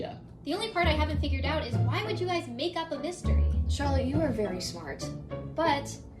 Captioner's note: none